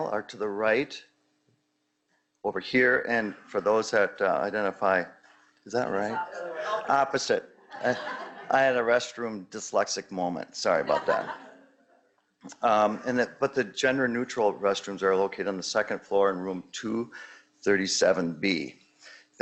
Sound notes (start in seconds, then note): 5.8 audience mumbling; 7.6 audience laughing